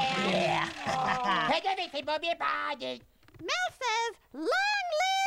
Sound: speaking gibberish

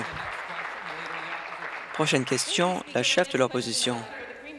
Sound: applause

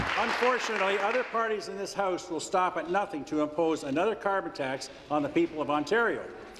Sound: applause

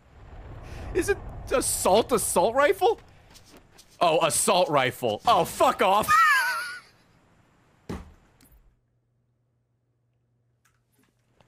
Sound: laughs

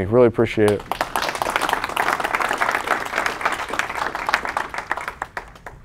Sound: audience clapping

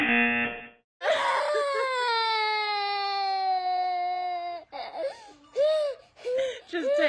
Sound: buzzer; baby whining

